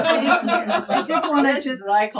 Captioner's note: laughing